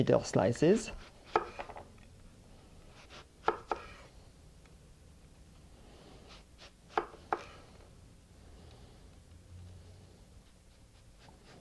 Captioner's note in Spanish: sonido cortando